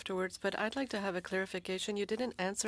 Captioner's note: speaking French